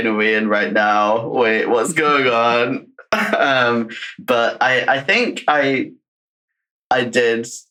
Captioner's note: laughs